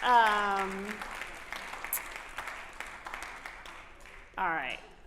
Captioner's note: applause